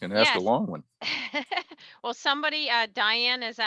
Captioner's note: laughs